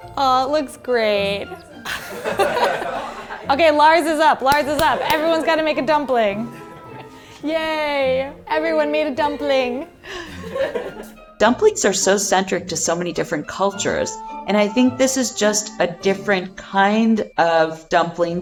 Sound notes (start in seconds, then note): 1.3 all laughing; 10.1 all laughing